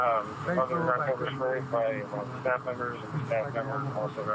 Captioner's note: radio chatter